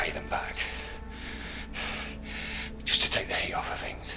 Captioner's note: Daveyboy breathing heavily